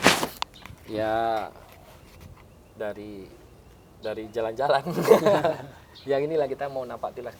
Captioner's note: laughs